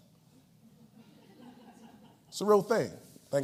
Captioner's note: laughs